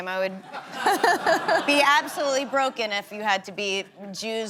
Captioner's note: laughing